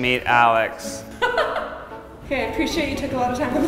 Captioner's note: laughs